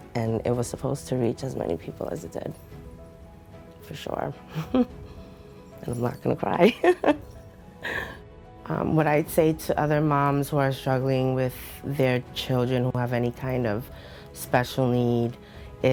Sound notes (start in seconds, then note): 4.5 chuckles; 6.8 laughs